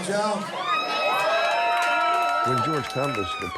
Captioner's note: cheering